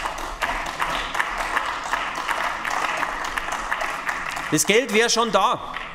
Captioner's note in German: Beifall bei den GRÜNEN